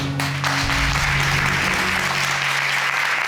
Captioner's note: crowd clapping